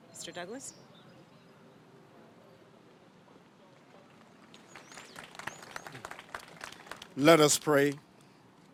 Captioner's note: applause